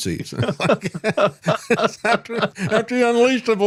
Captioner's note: laughing